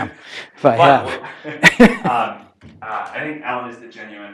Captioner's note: laugh